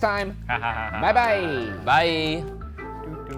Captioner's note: laughs